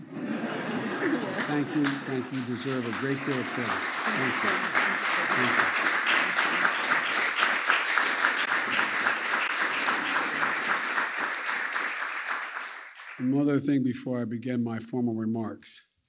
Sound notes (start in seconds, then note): 0.0 laughter; 4.8 applause